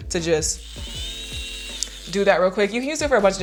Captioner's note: buzzing